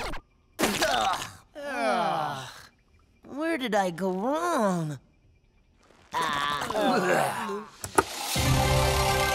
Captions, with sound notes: [groaning] Where did I go wrong? [groaning]